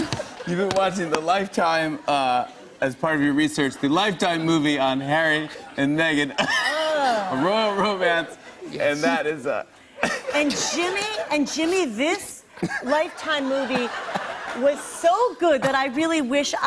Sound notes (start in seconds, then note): 0.0 laughter; 6.3 laughs